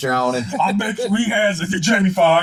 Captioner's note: laughing